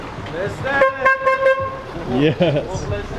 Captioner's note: car horn honking; chuckles